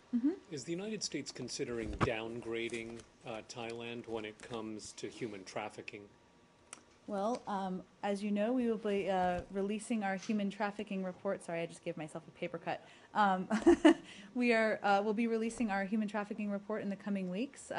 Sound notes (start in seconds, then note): 13.5 laughter